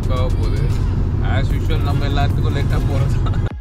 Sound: laughs

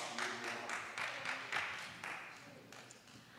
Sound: applause

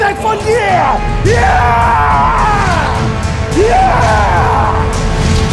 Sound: both scream in ecstasy

